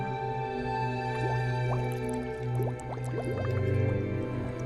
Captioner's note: ominous instrumental music continues; water bubbling